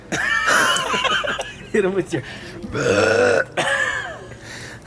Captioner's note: burps